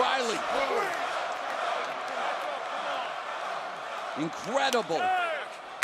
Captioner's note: crowd cheering